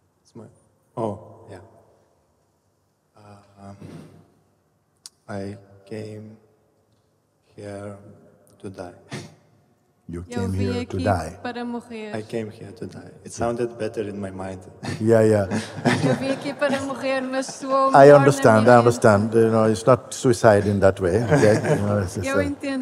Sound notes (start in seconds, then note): 8.4 laughs